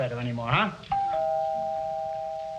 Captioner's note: doorbell